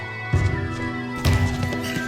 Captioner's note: footsteps